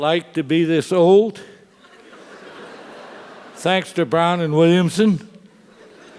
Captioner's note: laugh; laugh